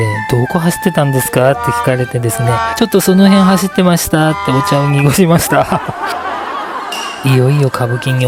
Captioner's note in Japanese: 笑い声